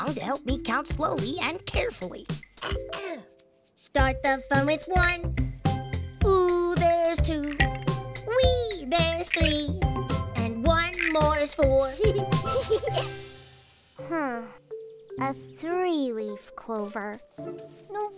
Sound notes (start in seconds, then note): 2.6 Antwon clears throat; 11.9 June giggles